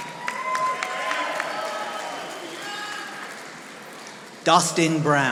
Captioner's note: audience applauding